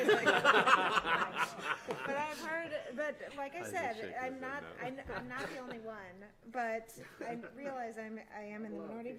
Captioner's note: laughter